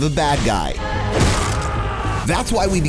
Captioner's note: man screams